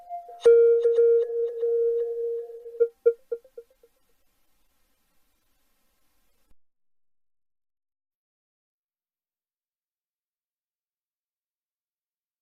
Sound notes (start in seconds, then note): 7.6 silence